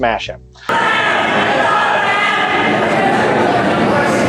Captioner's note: crowd shouting